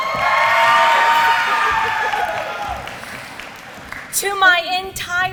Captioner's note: applause